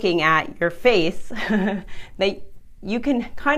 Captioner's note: laughs